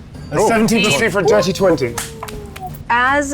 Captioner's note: applauding